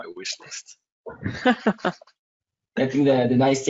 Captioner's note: laughs